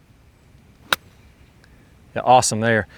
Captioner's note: club knocking the ball